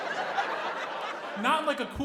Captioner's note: audience laughing